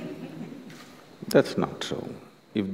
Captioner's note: laughter